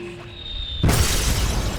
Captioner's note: glass smashes